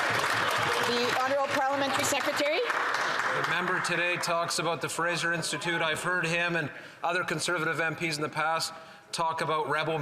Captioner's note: cheering and Applause